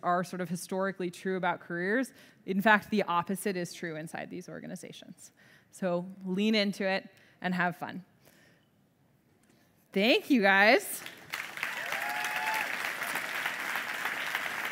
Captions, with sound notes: are sort of historically true about careers. In fact the opposite is true inside these organizations. So lean into it and have fun. Thank you guys. (audience clapping)